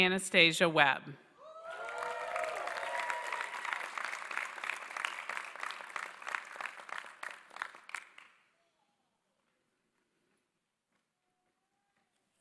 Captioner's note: applause